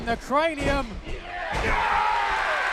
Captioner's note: crowd cheering